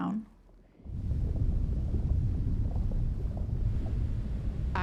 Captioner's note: waterfall sounds